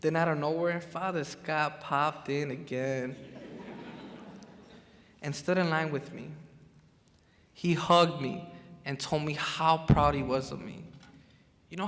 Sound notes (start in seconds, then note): 3.2 crowd laughs